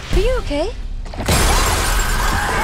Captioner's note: screams